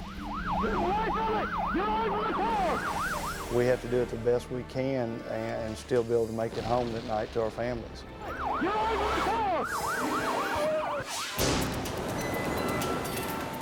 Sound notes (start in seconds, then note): 8.2 siren wailing; 11.1 tense music